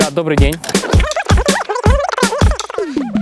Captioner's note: speaks in Igorean